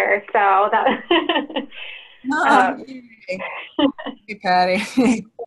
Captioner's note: laughter